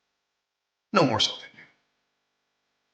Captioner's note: faintly speaks